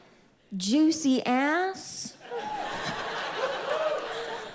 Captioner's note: audience laughs